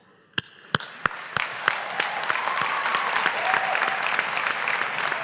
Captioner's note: audience applauding